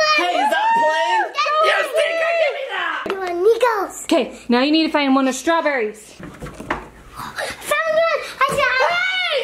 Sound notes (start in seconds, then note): 0.0 laughs; 7.1 gasps